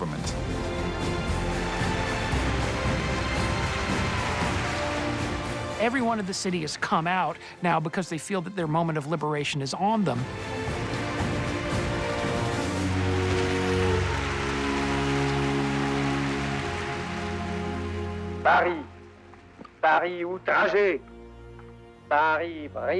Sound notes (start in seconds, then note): 0.2 triumphant music; 12.8 crowd cheers; 18.2 speaks French